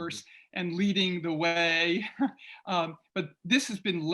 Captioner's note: chuckles